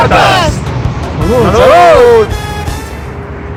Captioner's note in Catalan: Crits